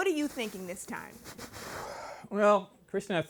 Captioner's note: inhaling deeply